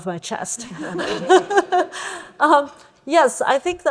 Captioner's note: laughter